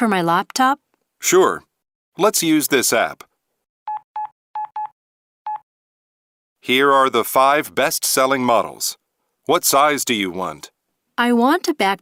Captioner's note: smartphone typing sound